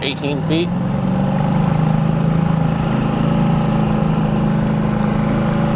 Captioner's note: trolling motor purring